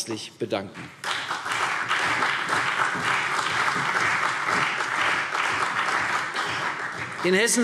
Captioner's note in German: Beifall CDU und BÜNDNIS 90/DIE GRÜNEN